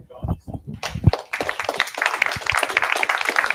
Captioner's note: applause